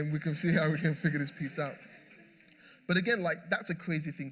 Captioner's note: laughter